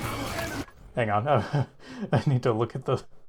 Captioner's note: laughter